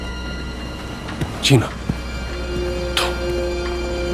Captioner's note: Indy whispering